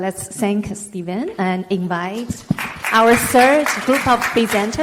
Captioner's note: clapping over speaker